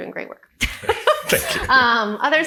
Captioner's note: laughs